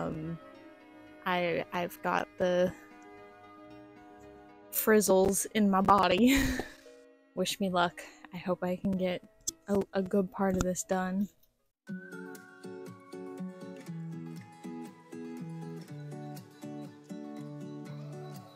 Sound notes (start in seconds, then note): 5.9 laughter